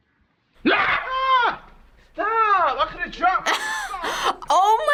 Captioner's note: man yells; laughs